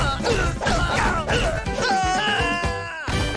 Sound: grunting; screaming

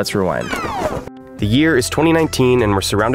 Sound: tape rewinding

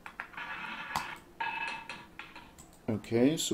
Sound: ball rolling

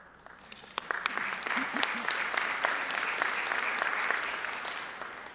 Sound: audience applauding

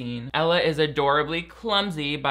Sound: none

